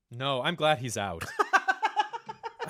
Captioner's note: laughter